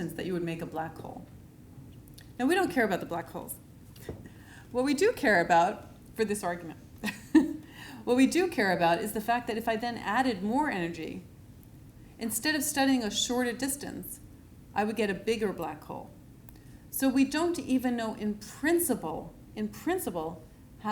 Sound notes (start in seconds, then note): 6.8 laughs